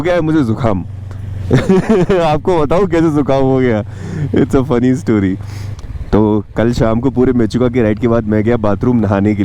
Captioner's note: chuckles!